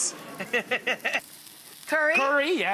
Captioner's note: Rachael laughing